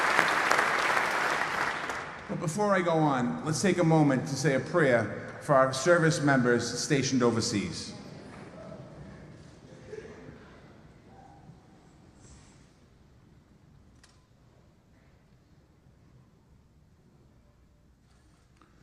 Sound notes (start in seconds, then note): 0.0 applause